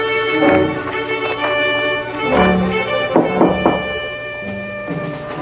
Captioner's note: knock on door